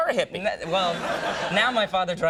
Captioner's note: audience laughing